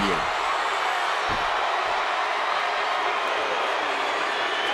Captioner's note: audience cheering